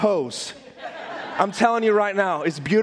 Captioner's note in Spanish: risas de audiencia